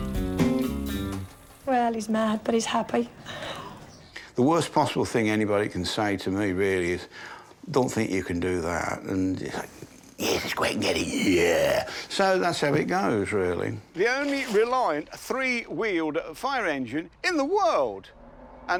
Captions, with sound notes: - Well he's mad but he's happy. (laughing) - The worst possible thing anybody can say to me, really, is don't think you can do that. And you're like, yeah let's go out and get it, yeah. So, that's how it goes, really. The only reliant three wheeled fire engine in the world!